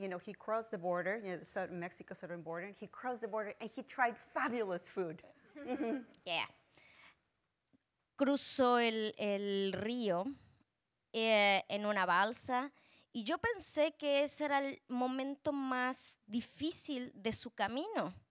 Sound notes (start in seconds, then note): 8.0 speaking Spanish